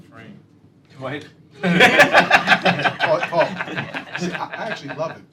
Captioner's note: laughter